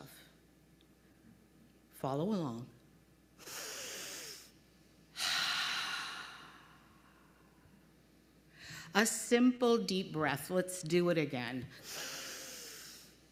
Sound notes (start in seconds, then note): 3.6 breathes in deeply; 5.1 breathes out slowly; 11.8 breathes in deeply